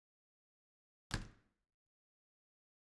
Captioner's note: house door shuts in the distance